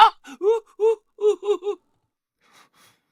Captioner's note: sobbing